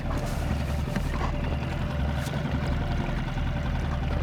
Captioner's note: boat motor hums